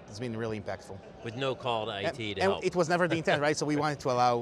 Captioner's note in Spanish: risas